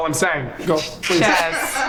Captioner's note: group laughs